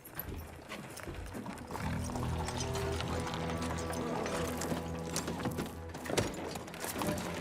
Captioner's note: hooves clopping; ominous music